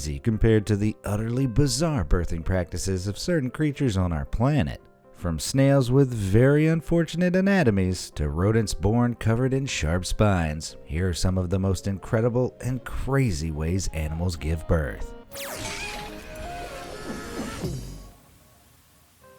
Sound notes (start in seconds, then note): 15.3 electricity buzzing; 16.3 soft music